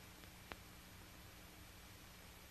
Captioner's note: none